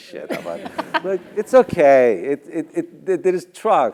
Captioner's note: laugh